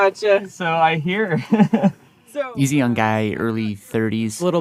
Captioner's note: laughs